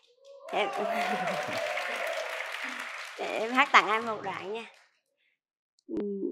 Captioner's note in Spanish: Aplaudir